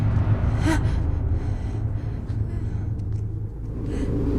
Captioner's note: Mindy sobbing